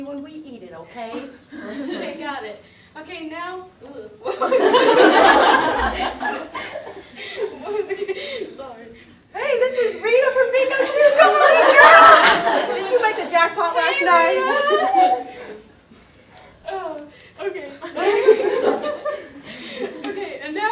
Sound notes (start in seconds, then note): 4.3 audience laughter